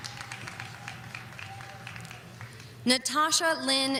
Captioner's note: audience cheering